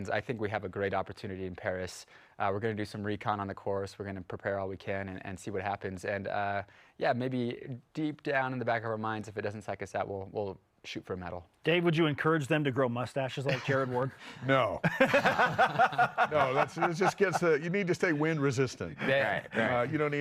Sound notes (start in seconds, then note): 14.8 laughing